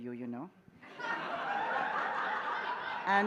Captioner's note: laughter